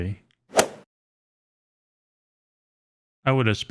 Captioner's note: golf swing sound effect